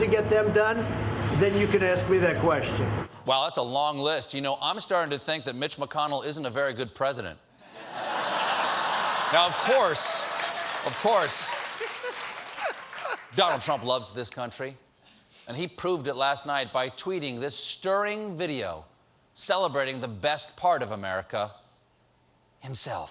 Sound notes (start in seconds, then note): 7.7 laughter; 8.3 applause